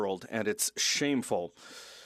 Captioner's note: speaking French